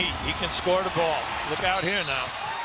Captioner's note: cheers and applause